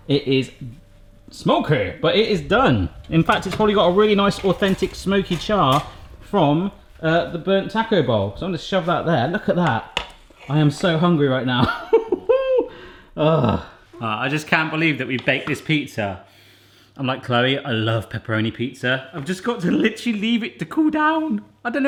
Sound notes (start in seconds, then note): 11.5 laughs; 16.4 sniffs